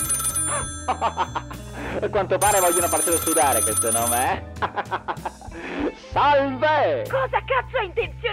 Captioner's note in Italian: risata